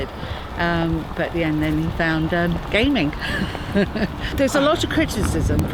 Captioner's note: laughs